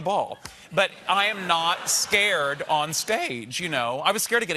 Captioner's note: laughter